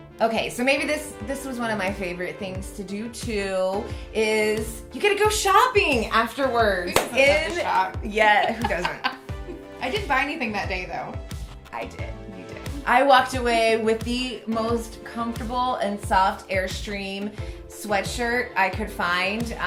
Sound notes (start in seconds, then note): 8.2 laughs